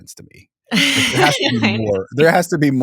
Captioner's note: laughing